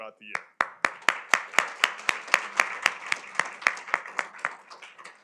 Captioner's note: applause